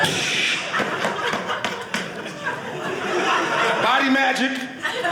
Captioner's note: audience laughing